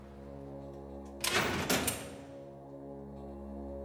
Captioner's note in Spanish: ruido al abrir la puerta